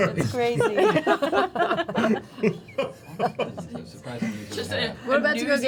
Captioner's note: laughter